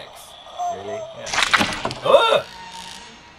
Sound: squelching noise

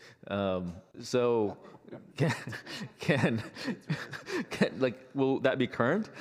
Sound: laughter

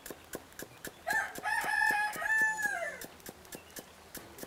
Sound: rooster crows/chopping sounds

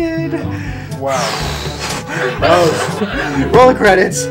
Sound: deep breaths

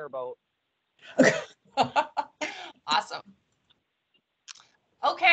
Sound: laughs

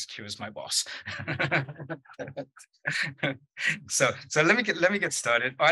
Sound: laughter

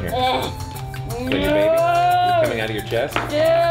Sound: imitates dinosaurs

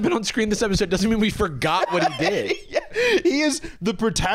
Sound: laughing

